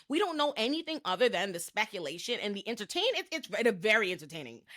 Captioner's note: none